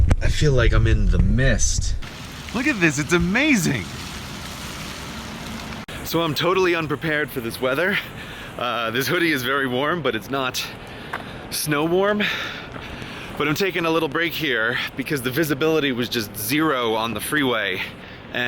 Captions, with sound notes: I feel like I'm in the mist.... *excitedly* Look at this! It's AMAZING! So I'm totally unprepared for this weather.... Ahhhhh, this hoodie is very warm but its not.... ...snow warm. but I'm taking a little break here because the visibility was just zero on the freeway and....